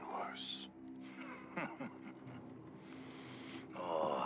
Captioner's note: laughs